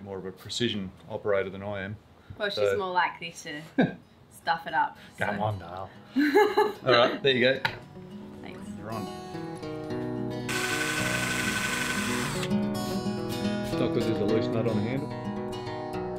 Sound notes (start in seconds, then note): 10.2 gentle music; 10.4 drill whirring